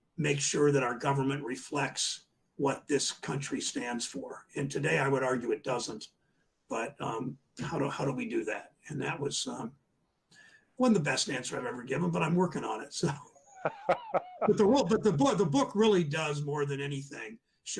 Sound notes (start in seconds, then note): 13.4 laughs